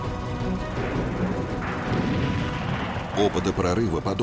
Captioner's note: sound of explosions